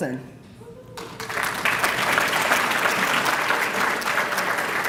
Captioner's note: applause